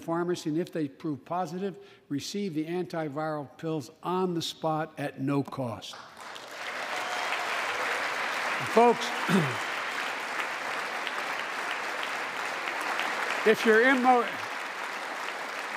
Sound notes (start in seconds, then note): 5.9 applause